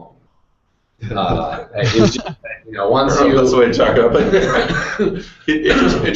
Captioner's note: laughing